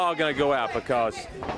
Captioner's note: crowd chatter